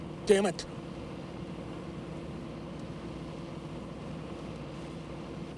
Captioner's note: car engines revving